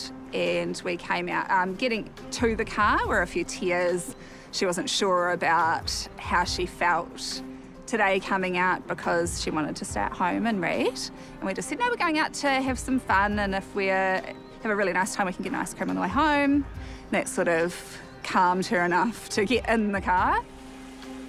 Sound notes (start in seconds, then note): none